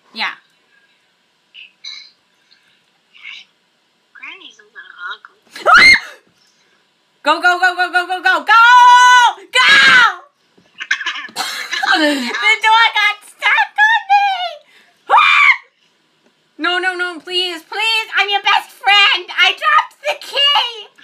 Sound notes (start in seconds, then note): 5.6 screams; 10.7 laughing; 15.0 screams